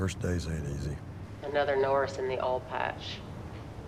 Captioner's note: on phone